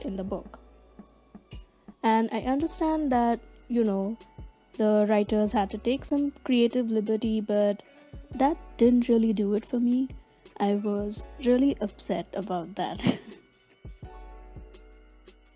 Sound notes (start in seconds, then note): 13.0 laughs sadly